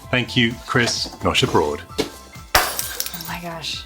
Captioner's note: fake glass shattering